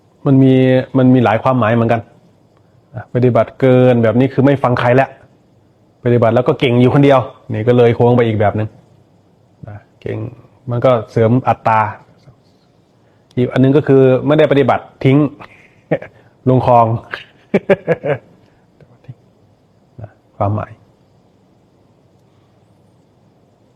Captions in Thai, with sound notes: มันมีมันมีหลายความหมายเหมือนกันอ่ะ ปฏิบัติเกินแบบนี้คือไม่ฟังใครแล้วะ ปฏิบัติแล้วก็เก่งอยู่คนเดียวนี่ก็เลย โค้งไปอีกแบบนึงนะเก่งมันก็เสริมอัตตา อีกอันนึงก็คือไม่ได้ปฏิบัติทิ้งลงครอง [เสียงหัวเราะ] ทิ้งนะความหมาย